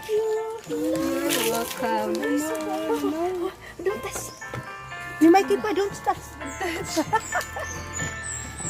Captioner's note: laughing